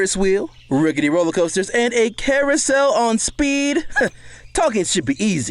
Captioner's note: chuckles